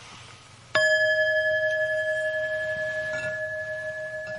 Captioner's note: bell chiming